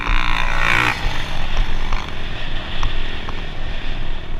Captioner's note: engine revving